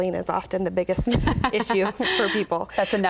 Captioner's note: laughing